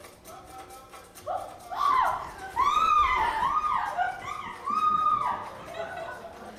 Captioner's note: yells in fright